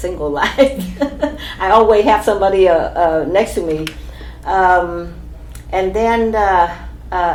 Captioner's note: laughs